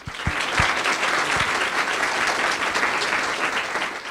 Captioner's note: audience claps